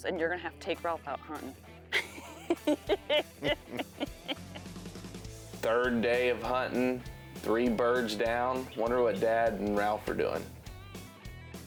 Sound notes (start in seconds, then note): 1.9 laughing